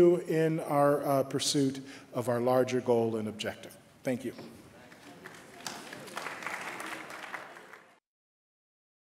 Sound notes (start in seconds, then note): 4.8 applause